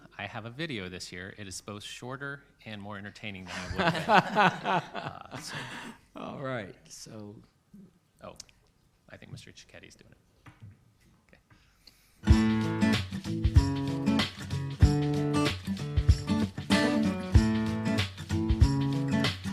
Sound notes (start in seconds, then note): 3.5 laughs; 12.2 upbeat lively music